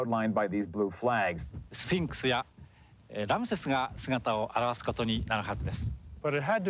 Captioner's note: non-english speech